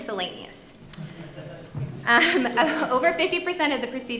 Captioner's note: audience laughing